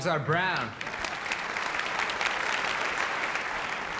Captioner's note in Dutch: applaus